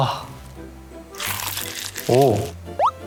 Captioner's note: Crunch